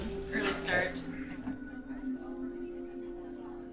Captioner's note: footsteps